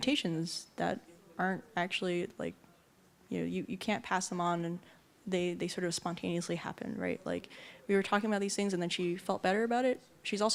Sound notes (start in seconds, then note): none